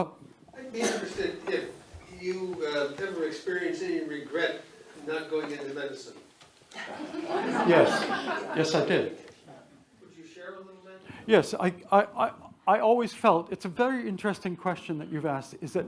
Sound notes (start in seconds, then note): 6.7 attendees laugh